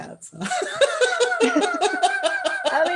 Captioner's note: laughter